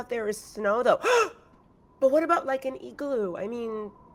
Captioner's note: gasps